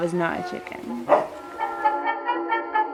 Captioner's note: dog barks again